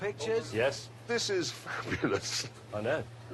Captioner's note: laughs